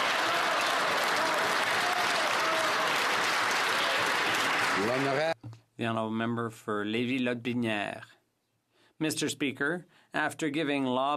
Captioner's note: some Applause